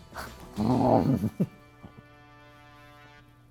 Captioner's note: chomps